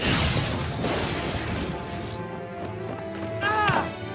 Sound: thunder crashing

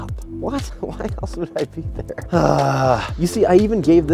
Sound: groans

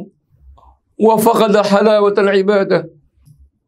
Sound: arabic

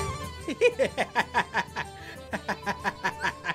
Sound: laughs

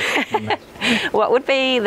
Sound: laughing

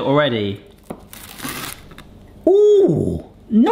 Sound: toast crunching

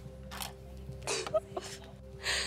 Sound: sobs

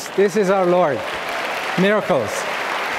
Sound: audience clapping

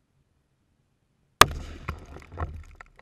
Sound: small explosive boom

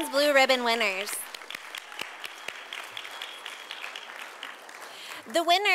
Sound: sound of applause from audience

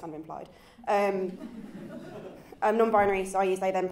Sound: chuckles

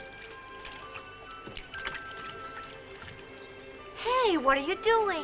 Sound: water splashing

